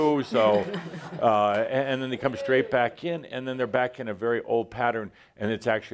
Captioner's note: laughter